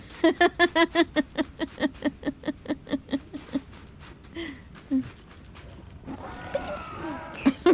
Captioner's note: laughter